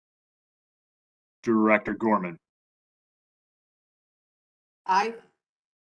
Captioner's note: A pause